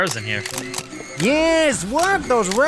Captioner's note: camera clicking